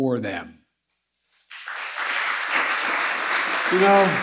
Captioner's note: applause